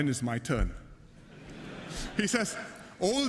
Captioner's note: laughter